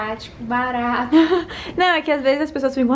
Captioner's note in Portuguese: Risos